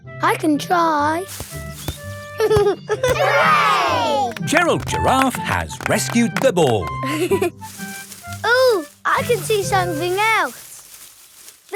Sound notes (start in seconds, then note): 1.2 leaves rustle; 2.4 giggling; 7.0 leaves rustling